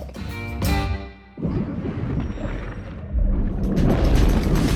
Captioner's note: water gurgling; upbeat music